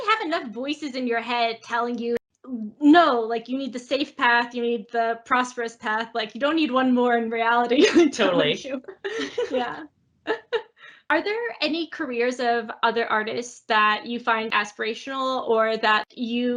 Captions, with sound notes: You already have enough voices in your head telling you, "No, you need the safe path, you need the prosperous path." You don't need one more in reality. [laughs]. Totally. [both laugh]. Yeah. Are there any careers of other artists that you find aspirational or that